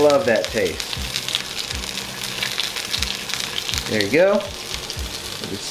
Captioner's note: oil sizzling